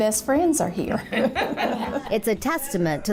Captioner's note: laughs